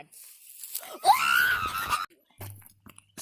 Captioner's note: screams